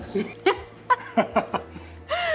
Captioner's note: laughs